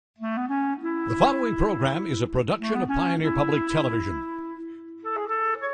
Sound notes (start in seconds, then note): 1.5 voiceover